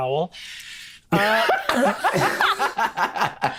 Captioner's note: laughs